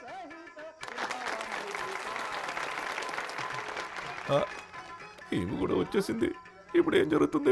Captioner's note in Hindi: तालियाँ